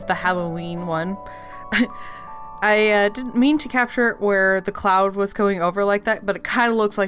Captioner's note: laugh